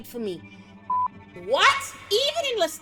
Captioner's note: beep